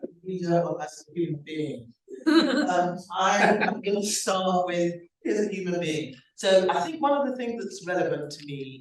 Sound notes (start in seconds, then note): 2.2 laughs